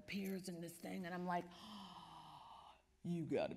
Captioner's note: deep breath